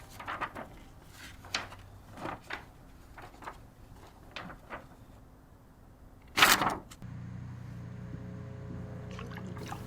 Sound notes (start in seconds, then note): 0.0 paper flutters; 6.4 paper tears